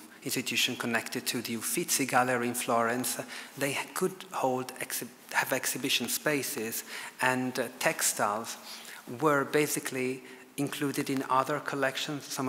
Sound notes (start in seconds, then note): none